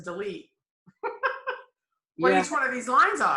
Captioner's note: giggles